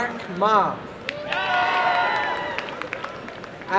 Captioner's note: applause and cheering